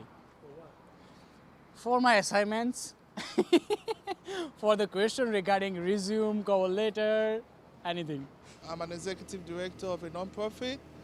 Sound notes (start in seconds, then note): 3.2 chuckles